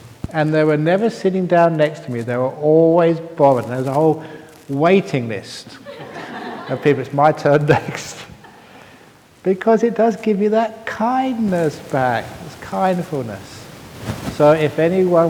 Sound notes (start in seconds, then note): 8.4 laughter